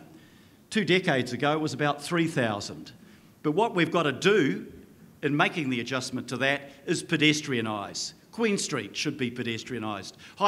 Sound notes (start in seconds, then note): none